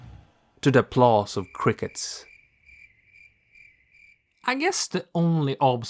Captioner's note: cricket noises